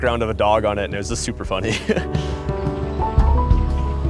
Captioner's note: chuckles; gentle music